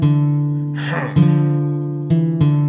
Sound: snoring; angry grunt

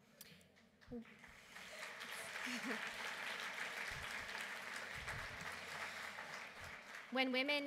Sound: applause

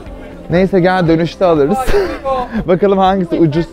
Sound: laughs

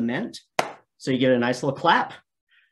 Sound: hands clap

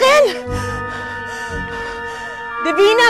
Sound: panting

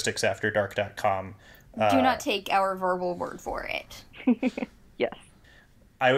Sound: giggles

